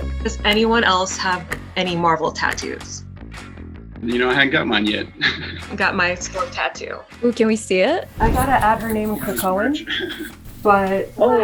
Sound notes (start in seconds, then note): 5.1 laughs